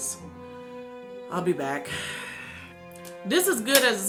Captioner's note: sighs